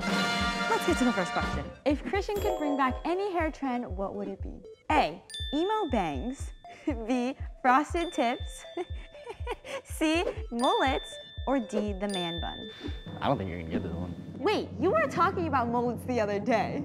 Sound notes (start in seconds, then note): 9.2 laughing